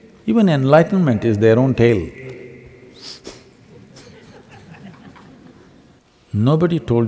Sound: laughter

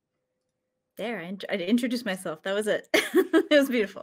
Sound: laughs

